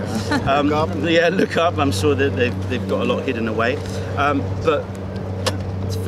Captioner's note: laughter